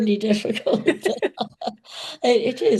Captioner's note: all laughing